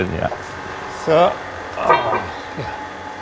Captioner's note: metal clinking